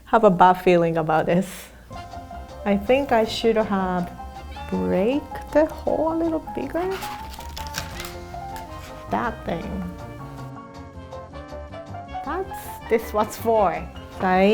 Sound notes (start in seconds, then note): 7.6 cracking; 12.2 upbeat music